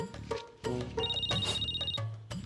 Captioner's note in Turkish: Telefon zili sesi